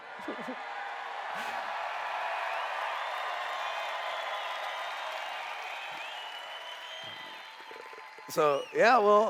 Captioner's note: cheers